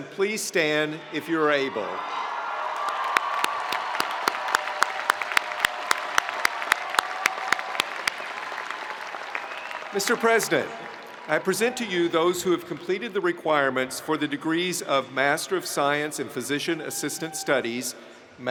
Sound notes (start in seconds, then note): 2.4 spectators cheering; 4.5 spectators applauding